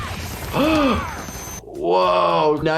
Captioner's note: gasping